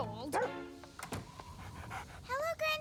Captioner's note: Nipper Barking